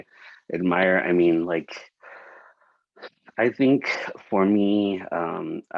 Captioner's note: sighs lightly